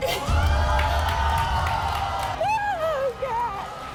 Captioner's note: audience yelling